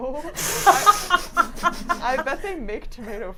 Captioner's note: laughs